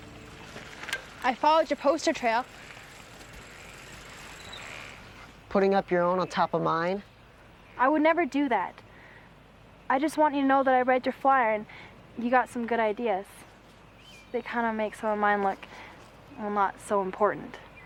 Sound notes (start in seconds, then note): none